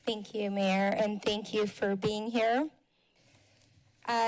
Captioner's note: none